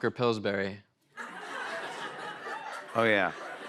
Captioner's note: laughter